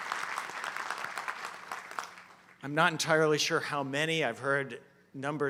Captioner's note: applause